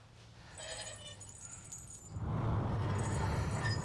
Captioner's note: creaking & jangling